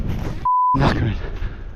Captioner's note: beep